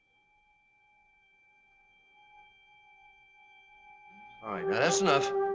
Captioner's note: whining